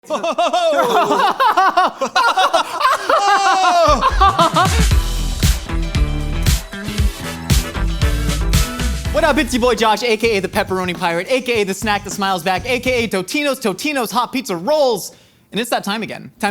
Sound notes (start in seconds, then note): 0.0 men laughing; 0.5 exclaims; 5.2 upbeat music